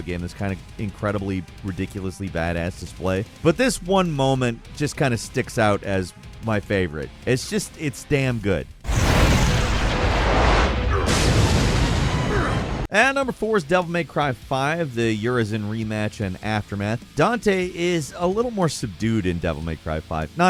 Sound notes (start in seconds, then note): 9.0 air whooshes